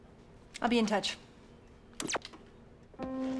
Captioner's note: tv turns off